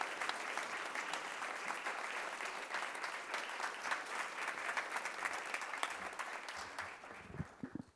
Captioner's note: applause